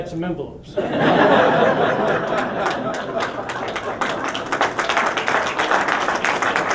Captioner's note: laughter and applause